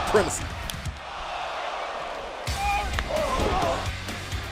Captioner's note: crowd cheering